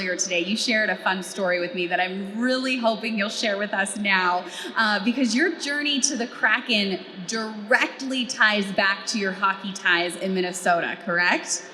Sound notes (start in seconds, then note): none